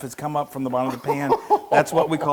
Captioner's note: laugh